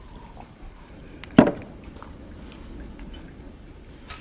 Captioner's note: glass bangs on bar